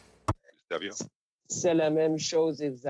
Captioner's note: speaking French